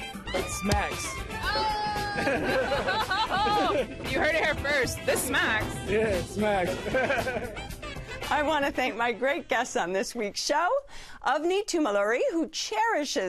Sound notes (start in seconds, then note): 6.7 laughs